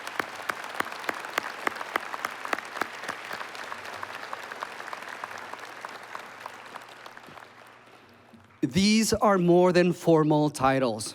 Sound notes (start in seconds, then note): 0.0 applause